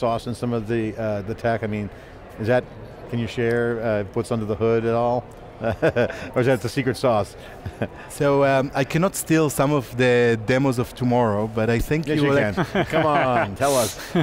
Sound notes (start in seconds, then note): 5.7 laughs; 14.0 laughs